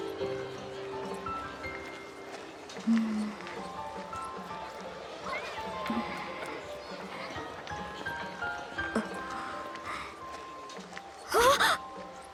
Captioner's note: gasp